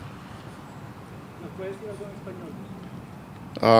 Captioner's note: reporter in Spanish